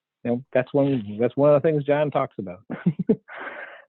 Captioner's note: chuckles